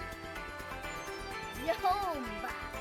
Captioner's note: sounds of a little glade